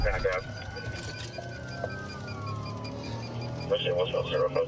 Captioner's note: sirens wailing